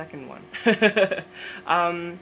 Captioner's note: laughs